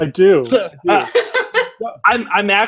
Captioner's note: laughing